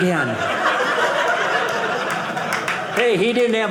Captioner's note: audience laughing